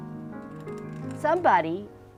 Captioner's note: clicking sound of nails being run along metal divets